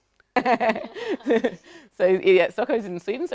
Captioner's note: laughs